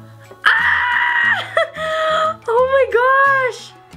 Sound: screams

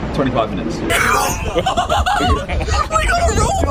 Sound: laughing

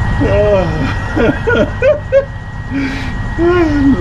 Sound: laughs

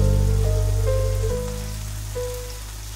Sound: raindrops

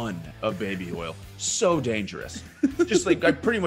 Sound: laugh

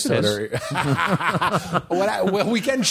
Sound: laughter

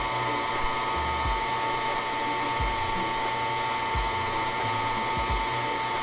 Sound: pasta maker whirring continuing

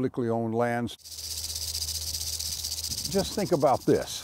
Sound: rattling

